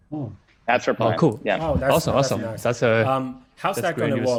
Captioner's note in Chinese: 异口同声